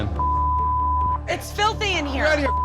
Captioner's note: beep; beep